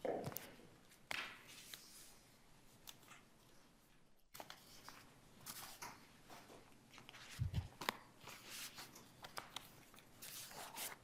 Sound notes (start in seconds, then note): 7.4 papers rustling